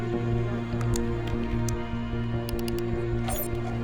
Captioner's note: typing